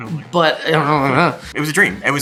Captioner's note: Kieran teasingly mumbles